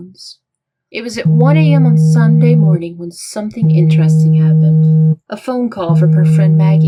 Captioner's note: cell phone vibrating